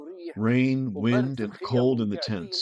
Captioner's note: through translator